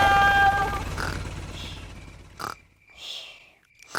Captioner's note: baby alexander snoring